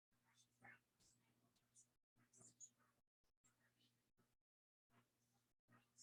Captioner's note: people chattering indistinctly